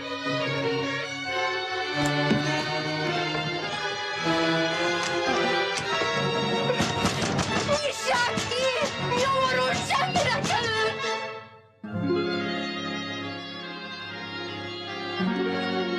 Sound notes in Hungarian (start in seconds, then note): 8.0 ordít; 12.4 lágy, érzelmes, ringató filmzene